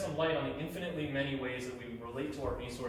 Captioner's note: none